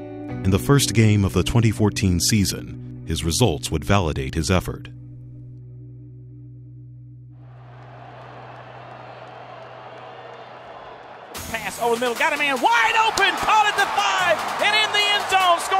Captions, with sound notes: In the first game of the 2014 season, his results would validate his effort. - [Voiceover] Pass. Ole Mill got a man wide open, Cody to five, and in the end zone,